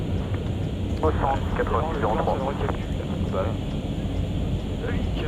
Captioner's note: radio chatter